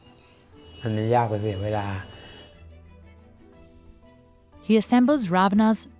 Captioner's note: speaking foreign language